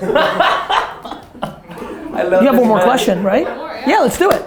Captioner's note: laughter